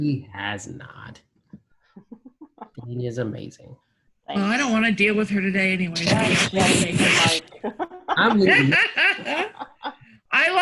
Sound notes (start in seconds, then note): 5.8 static drowns out conversation; 7.2 laughs